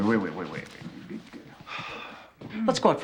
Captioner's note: sighs